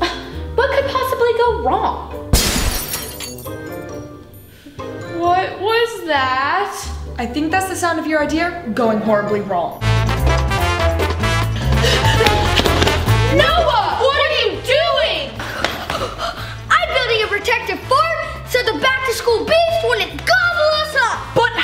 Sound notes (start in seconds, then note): 2.3 glass shattering; 10.6 upbeat music